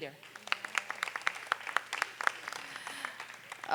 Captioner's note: applause